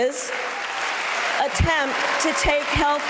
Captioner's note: cheers and applause